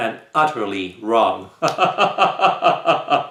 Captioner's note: chuckle